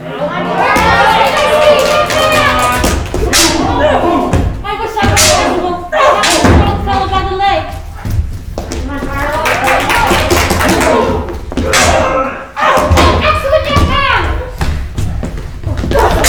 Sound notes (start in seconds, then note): 2.9 staff clacking; 9.3 crowd applauding; 15.8 staffs clacking